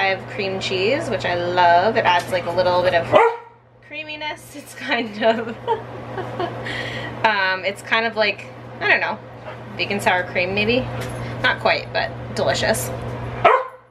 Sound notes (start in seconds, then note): 3.1 dog barking; 4.8 chuckling